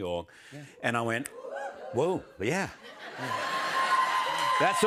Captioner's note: cheers and applause